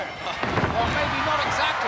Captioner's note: bodies thudding; laughs